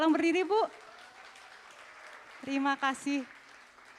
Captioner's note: applause